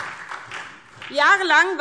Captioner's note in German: Beifall SPD